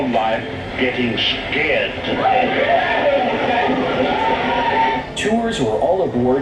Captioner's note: guests yelling